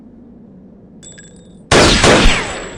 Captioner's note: gun firing